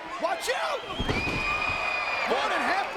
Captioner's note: crowd cheering; mat thumping